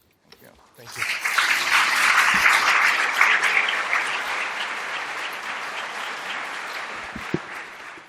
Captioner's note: applause